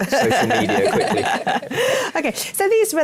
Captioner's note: laughter